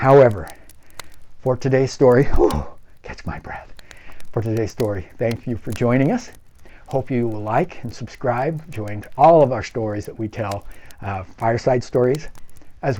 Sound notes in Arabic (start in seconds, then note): 3.5 تلتقط الأنفاس